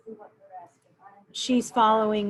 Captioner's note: murmurs